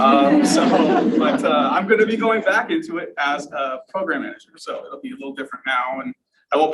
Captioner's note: laughter from audience